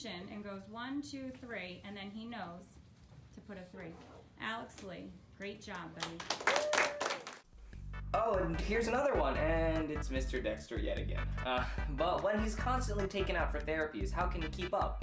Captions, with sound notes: And goes 1, 2, 3 And then he knows Alex Lee, great job buddy [Applause] Oh, and here's another one! And.. it's Mr. Dexter, yet again "But when he''s constantly taken out for therapies, how can he keep up?"